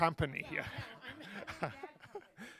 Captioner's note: laughter